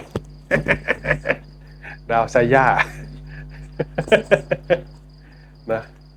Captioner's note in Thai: เสียงหัวเราะ